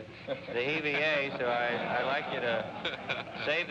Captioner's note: audience laughs